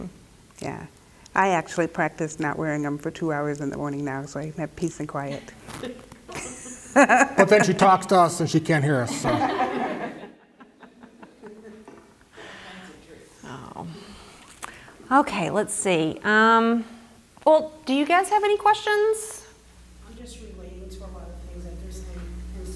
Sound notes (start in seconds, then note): 6.2 laugh; 11.9 laughter